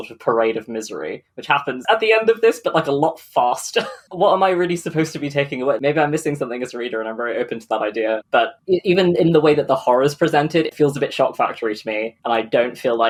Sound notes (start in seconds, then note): 3.8 laughs